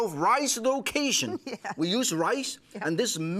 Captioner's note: laughter